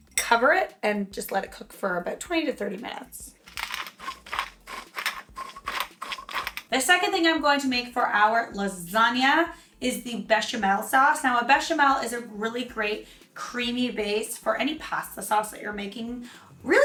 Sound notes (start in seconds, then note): 3.4 soft grinding